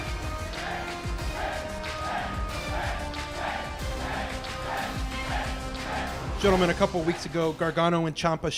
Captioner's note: crowd cheering